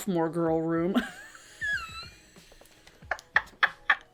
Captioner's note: laughs